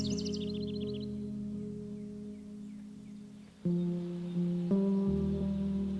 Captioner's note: birds chirping